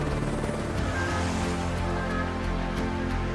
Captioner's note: blades whirring